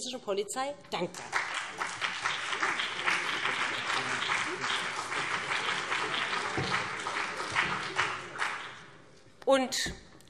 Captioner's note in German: Beifall BÜNDNIS 90/DIE GRÜNEN und CDU